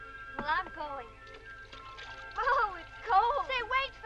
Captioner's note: water splashing